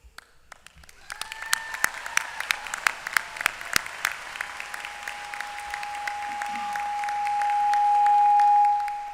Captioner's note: applause